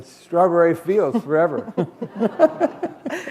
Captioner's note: laughter